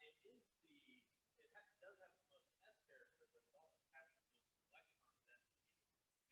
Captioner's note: student speaking faintly